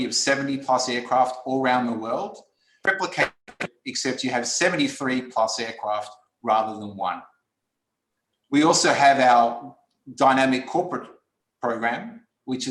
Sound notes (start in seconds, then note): 2.8 distortion